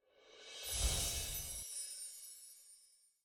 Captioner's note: chimes tingling